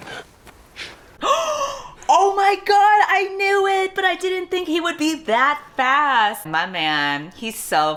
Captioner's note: gasps